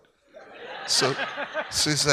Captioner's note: audience laughs